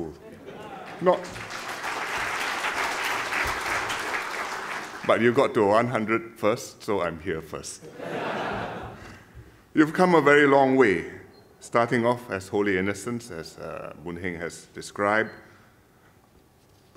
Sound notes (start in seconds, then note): 0.8 applause